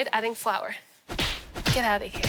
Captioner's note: smacking